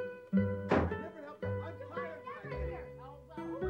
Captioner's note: door slamming